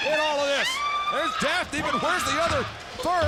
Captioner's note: screaming